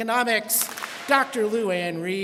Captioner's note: students clap